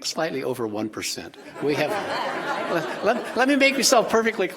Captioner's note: audience laughing